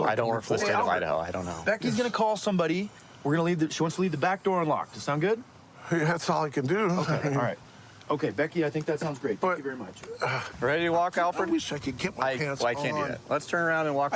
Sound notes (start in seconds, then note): none